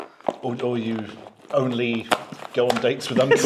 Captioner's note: packet clatters